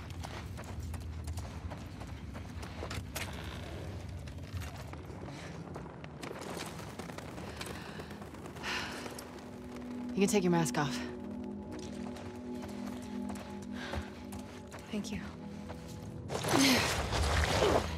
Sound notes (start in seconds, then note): 8.6 deep breath